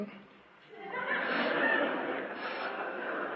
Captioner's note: laughter